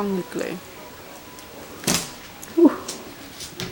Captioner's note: tape pulls off suddenly and gasps